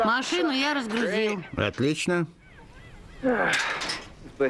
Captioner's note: sighs